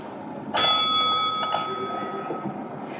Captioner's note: bell dings